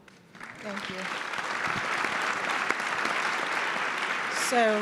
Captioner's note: audience applauds